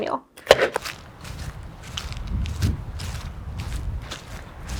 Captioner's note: muffled footsteps